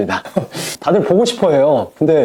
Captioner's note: laughs